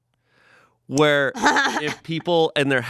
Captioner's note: laughs